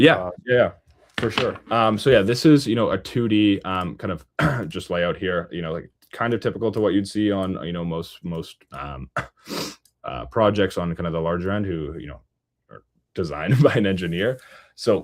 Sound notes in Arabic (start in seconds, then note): 4.4 يُصفّي حلقه; 10.5 يضحك بسخرية